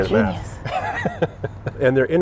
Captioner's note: laughs